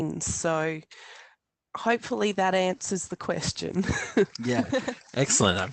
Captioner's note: laughs